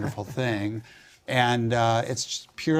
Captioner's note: laugh